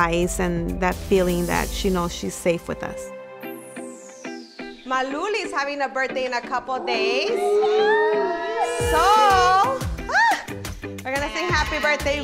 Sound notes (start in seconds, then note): 3.0 upbeat music; 7.3 everyone cheers; 9.7 screams